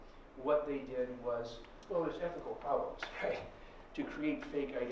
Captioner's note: none